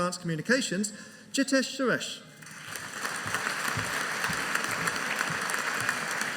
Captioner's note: audience applauding